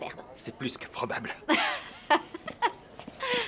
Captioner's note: laughing